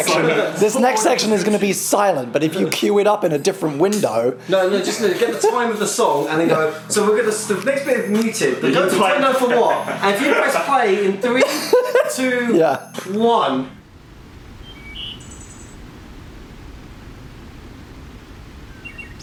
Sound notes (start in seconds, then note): 8.4 murmurs; 14.2 engine sound